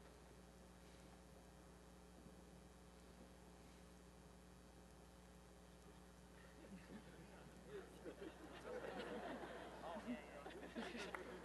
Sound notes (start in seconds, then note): 7.6 laughter